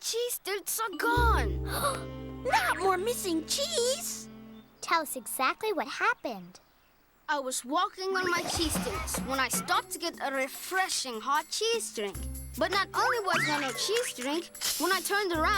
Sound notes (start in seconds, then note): 1.6 gasps